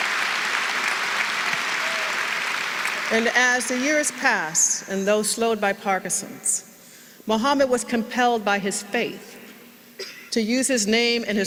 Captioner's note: applause